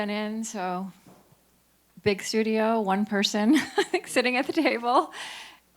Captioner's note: chuckles